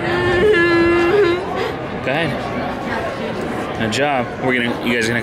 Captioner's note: whimpering